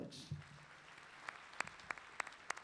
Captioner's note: clapping